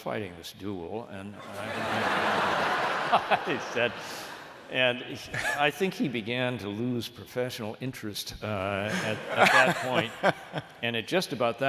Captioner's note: laughter